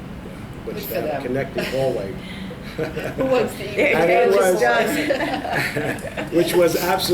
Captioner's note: all laugh